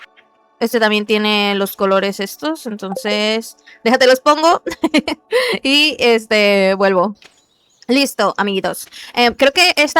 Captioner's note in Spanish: risas